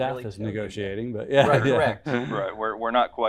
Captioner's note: laughter